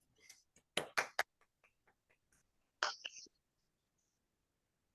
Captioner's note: applause